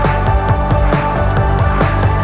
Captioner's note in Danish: Bifald